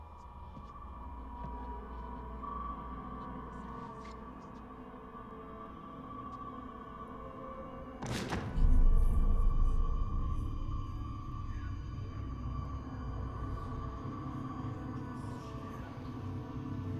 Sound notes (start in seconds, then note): 7.9 thudding; 11.0 demonic voice murmuring